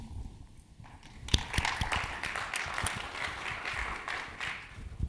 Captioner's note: audience applauding